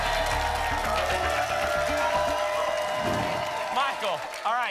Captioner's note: applause and cheering cont